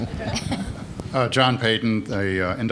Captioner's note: laughter